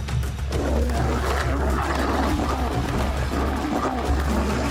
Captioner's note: lions snarling